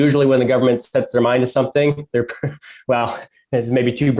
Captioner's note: laughs